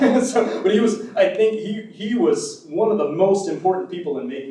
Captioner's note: laughs